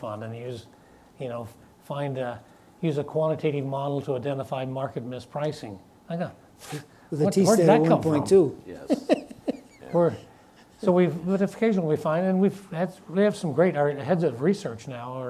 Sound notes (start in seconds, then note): 6.4 scoffs